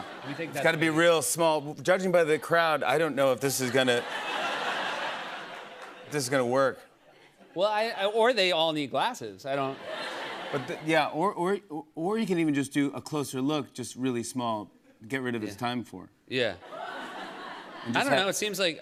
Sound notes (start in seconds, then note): 3.6 laughter